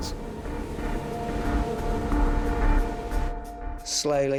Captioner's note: waves crashing; soft intense music